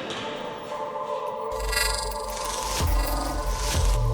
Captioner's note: creepy digital glitches